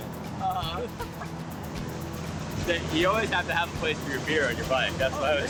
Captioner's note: laughs